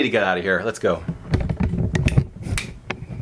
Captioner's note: camera jostling sounds